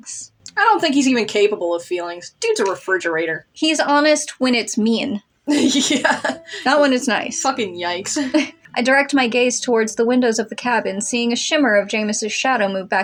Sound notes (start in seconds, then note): 5.5 laughing; 8.3 chuckle